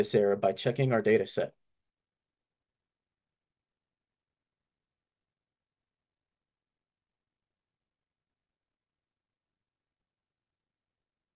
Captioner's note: silence